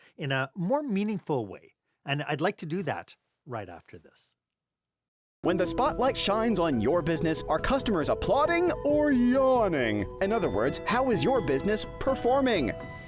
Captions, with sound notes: in a more meaningful way. And I'd like to do that right after this. [Voiceover] When the spotlight shines on your business, are customers applauding or yawning? In other words, how is your business performing?